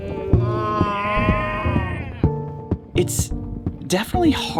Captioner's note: adventurers cheering